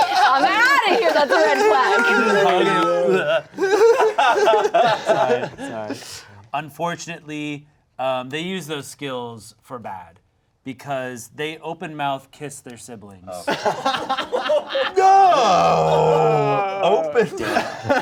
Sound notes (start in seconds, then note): 0.0 everyone laughing; 3.5 laughing; 13.4 laughing